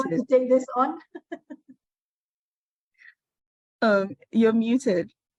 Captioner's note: laughs